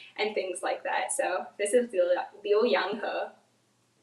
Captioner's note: speaks in foreign language